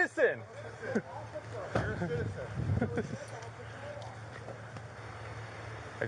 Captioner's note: officer chuckling